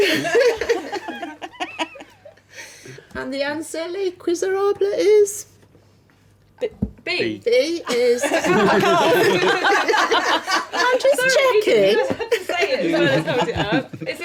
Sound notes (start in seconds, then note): 0.0 laughing; 7.9 laughing